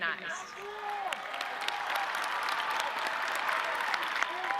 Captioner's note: audience cheering